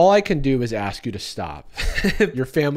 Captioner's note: laughs